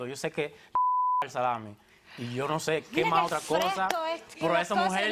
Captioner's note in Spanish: Bip